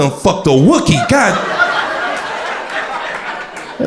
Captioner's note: crowd laughter